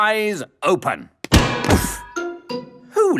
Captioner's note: thuds